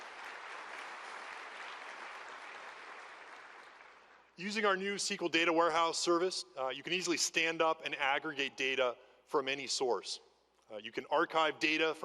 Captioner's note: applause